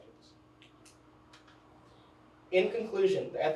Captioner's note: pointer clicks